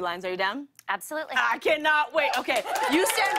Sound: cheers and applause

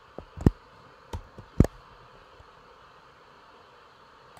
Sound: screen rustling

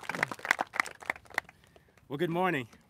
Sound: applauses

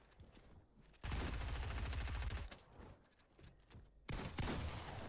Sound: gun firing loudly

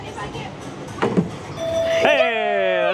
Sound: bystanders chattering; ball thudding; bell ringing

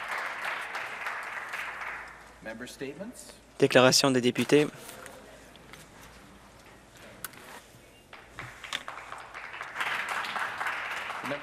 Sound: some Applause

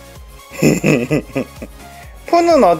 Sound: laugh

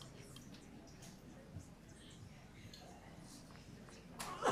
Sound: group chatter

